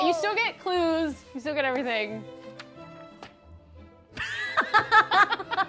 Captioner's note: paper rustling; both laughing